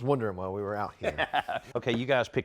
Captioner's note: laughs